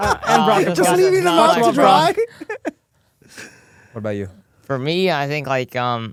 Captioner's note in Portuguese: risos